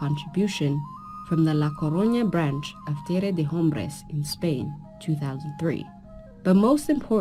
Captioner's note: speaking in foreign language